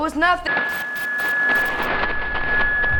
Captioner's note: buzzing; static